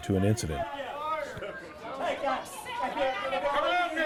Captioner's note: indistinct shouting